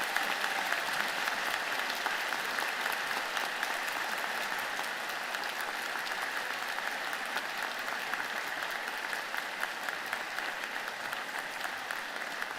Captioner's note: applause